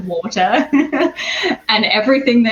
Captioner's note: laughs